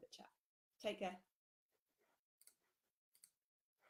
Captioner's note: clicking